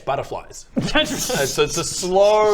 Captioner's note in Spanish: risa